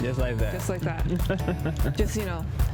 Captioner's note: laughs